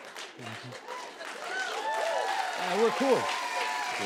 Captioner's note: cheers and applause